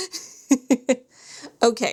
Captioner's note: laughs